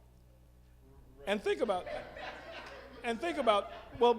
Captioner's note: all laughing